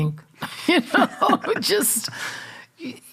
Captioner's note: both laughing